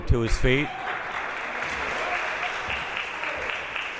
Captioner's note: clapping